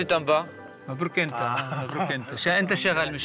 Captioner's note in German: Ägyptisch sprechend